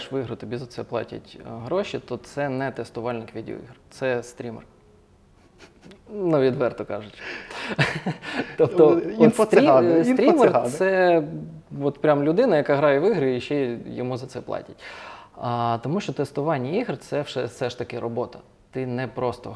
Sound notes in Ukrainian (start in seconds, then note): 7.2 сміх